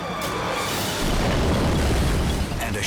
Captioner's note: wave booms